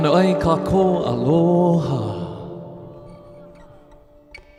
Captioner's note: speaking in Hawaiian